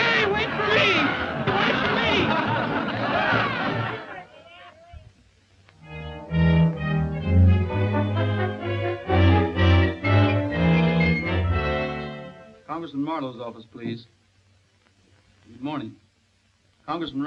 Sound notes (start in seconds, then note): 3.3 all laughing; 5.8 dramatic orchestral music